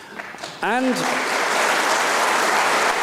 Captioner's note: applause